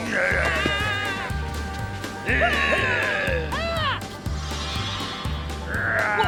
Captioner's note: passerby whimpering; prankster growling